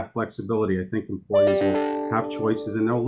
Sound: email alert in background

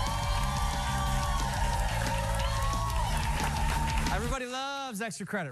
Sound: cheers and applause

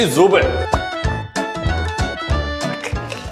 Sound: brushing teeth

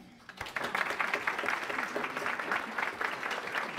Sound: applause

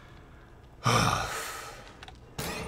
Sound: deep sigh; Walrider hisses ominously

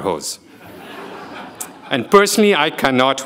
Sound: people laughing

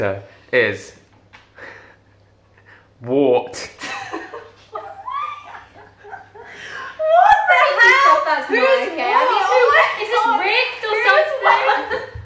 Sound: laughter

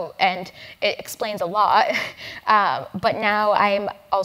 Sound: laugh

